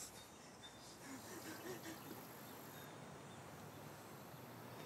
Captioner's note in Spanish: sollozos de berta